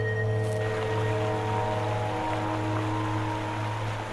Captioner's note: water flowing